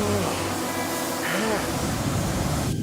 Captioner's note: heater rumbling